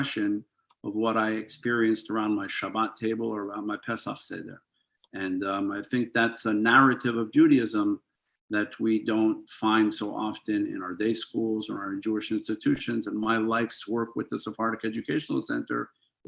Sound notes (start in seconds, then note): 4.1 hebrew